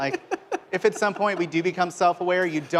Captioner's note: laughter